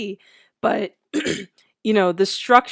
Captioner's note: clears throat